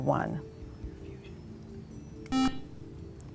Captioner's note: buzzer